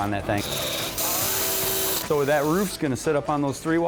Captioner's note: drilling